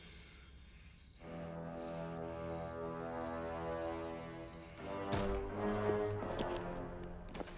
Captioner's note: Dalton breathes heavily; ominous music